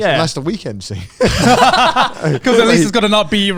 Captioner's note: all laughing